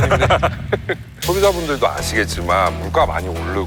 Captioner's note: whining ON